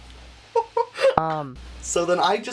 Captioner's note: laughing